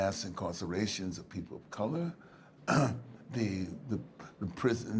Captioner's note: clears throat